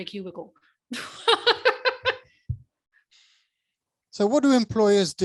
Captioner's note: laughing